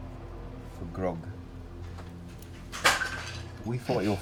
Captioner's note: crash in the background; laughs